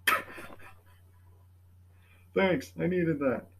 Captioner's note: awkward pause, laughs